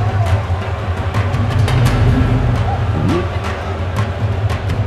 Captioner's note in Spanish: Bullicio